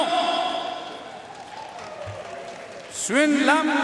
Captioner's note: audience cheering and applauding